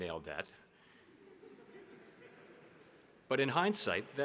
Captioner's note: audience laughing